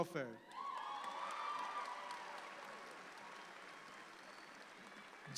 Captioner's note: audience applauds